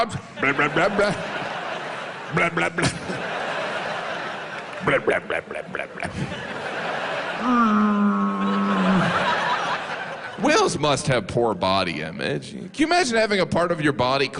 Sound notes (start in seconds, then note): 7.9 whale sounds